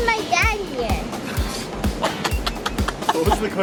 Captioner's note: laughs